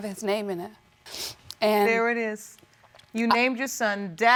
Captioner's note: sniffling